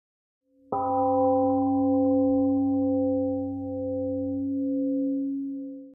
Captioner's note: temple gong rings and fades